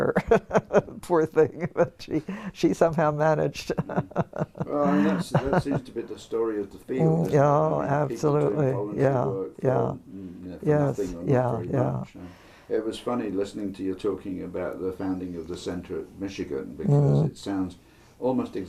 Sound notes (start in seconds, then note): 0.2 laugh